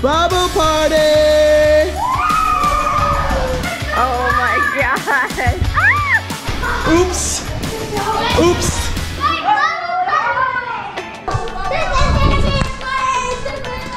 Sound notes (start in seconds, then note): 2.0 screaming; 9.4 screaming